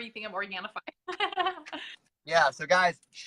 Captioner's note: laughs